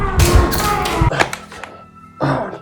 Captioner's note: gunshot; groans in pain; gasps